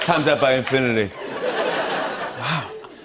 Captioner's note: laughter